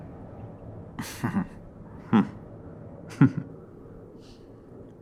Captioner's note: chuckling